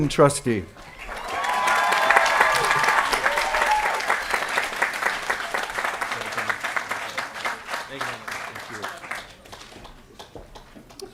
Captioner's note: applause & Cheering